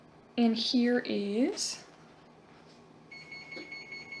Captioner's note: beeping noise